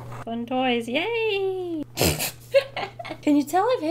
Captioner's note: laughs